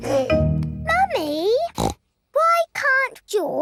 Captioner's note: giggles; snorts